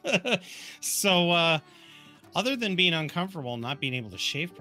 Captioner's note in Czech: smích